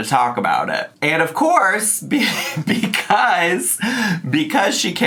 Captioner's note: laughs